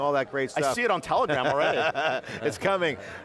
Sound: laughing; laughs

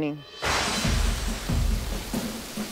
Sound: thunder clasp

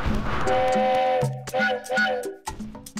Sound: train whistle blows

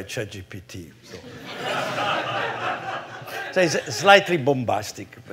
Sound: laughter

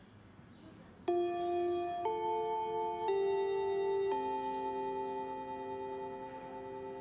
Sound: school bell chimes

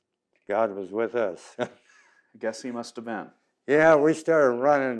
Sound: laughs

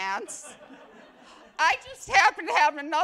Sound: attendees laugh

